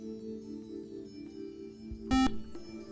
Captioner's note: buzzer